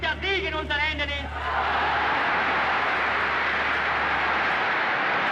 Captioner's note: crowd cheers